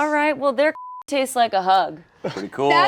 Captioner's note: beep